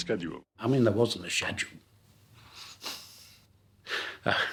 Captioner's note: laughing